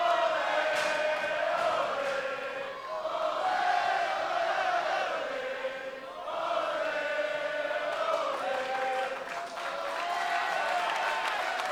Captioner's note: fans chanting